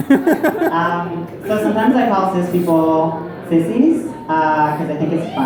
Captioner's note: crowd laughs